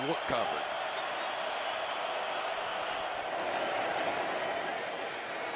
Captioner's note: crowd cheering